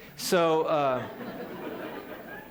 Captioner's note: laughter